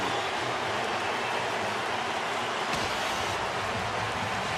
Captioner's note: cheering